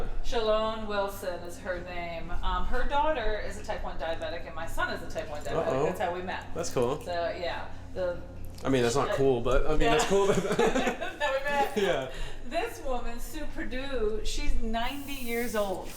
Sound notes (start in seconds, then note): 10.2 laughing